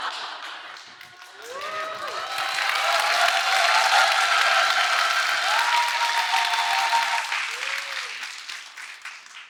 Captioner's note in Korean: 박수